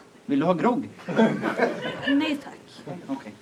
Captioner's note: laughter